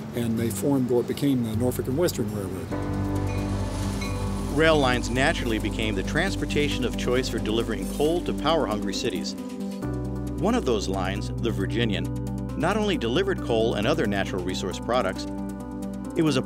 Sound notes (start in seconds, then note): 4.0 rail crossing bells